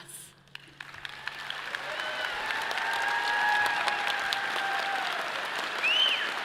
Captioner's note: audience applauding and cheering